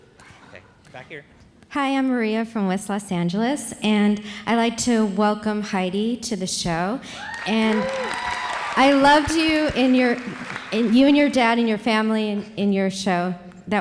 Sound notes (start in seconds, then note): 7.2 audience cheering; 7.2 audience applauds